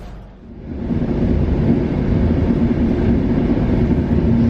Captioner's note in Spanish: sonido de marcha del tren UT440